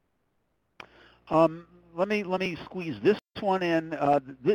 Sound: voiceover

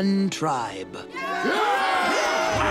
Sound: cheering

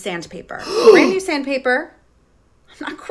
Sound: gasps

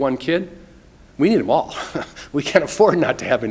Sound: laughs

